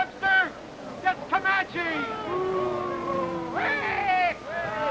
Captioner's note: crowd booing